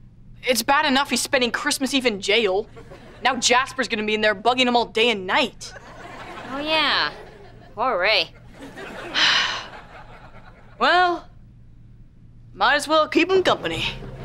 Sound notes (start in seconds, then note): 9.1 sighing